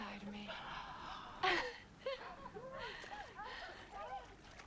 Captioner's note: Tracima gasps